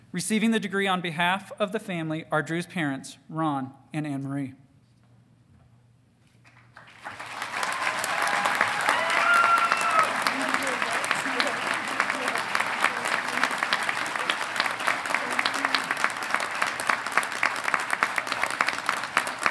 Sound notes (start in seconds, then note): 6.1 audience applauding; 6.1 audience cheering